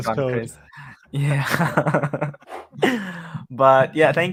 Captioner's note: laughs